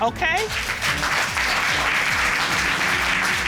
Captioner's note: applause